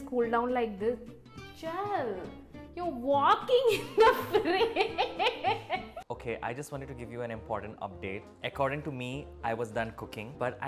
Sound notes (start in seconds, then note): 3.8 laughs